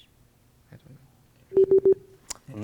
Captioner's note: group whispering; beeper beeping